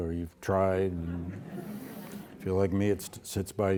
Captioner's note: audience laughing